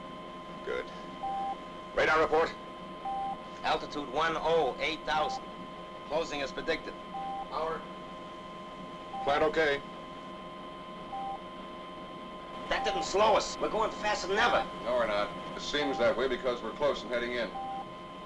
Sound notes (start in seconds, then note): 11.0 beeping sound